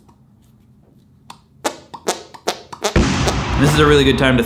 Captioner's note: farting noises